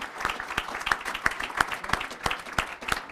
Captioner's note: applause